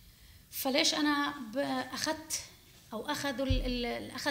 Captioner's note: speaking arabic